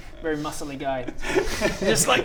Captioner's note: insulting laughter